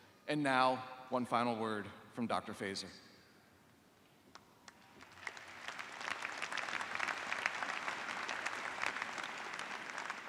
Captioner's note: applause